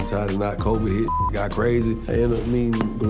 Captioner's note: beep